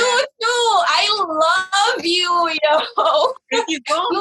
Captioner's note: laughs